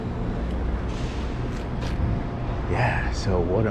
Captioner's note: street noise